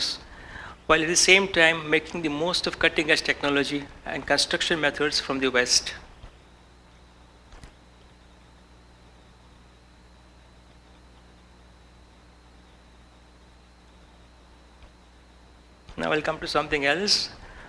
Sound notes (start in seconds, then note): 6.7 no audio input